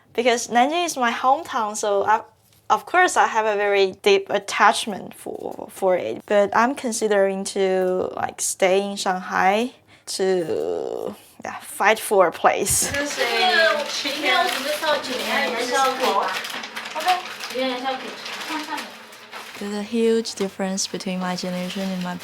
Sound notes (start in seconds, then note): 13.3 speaking in foreign language